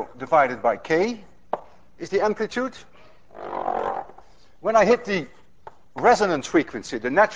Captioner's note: none